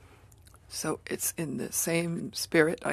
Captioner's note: speaking French